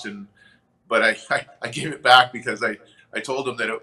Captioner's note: chuckles